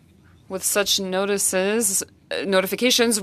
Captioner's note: speaking French